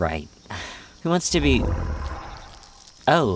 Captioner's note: Ignota sighs; Azazel grunts